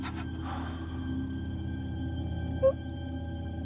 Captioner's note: sighs